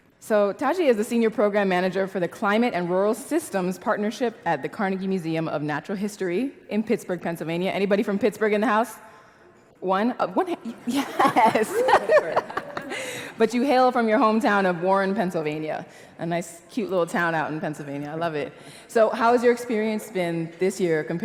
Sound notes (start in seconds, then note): 10.8 laugh